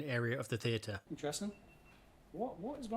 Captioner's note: device beeping